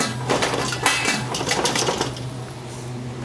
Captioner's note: pot clanking